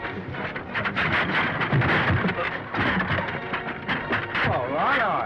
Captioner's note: chair clattering